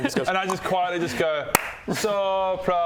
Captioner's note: slow clap